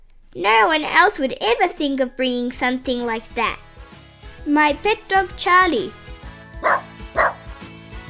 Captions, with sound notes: No one else would ever think of bringing something like that! ...my pet dog Charlie! (Bark) (Bark)